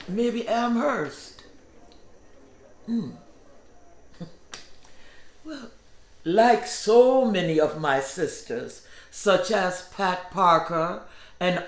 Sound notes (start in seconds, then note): 4.3 scoffs